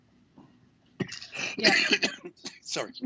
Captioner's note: coughs